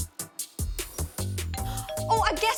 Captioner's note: bell ringing